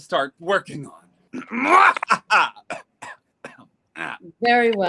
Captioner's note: coughs